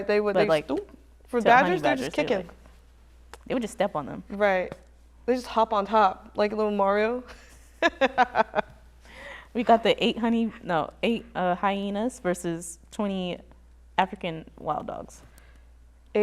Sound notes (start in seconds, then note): 7.3 laughs